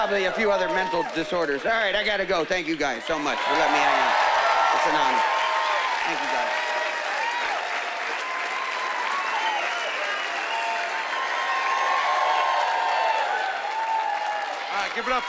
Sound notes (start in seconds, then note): 5.5 cheering and applause; 11.6 cheering and applause